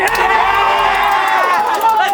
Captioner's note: cheering